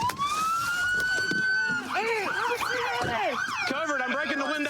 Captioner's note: shouting